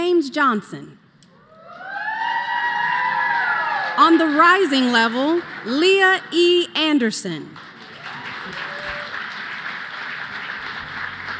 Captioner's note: cheers and applause